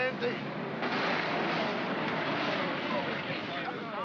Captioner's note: vehicles rumble